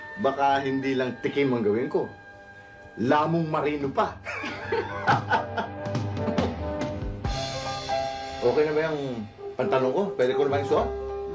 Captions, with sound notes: I might do more than just taste, I might gobble it up! [laughter] Is my my pants? Can I put it on?